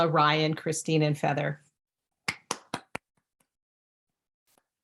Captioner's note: claps